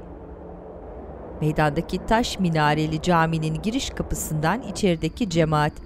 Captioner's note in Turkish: Rüzgâr sesi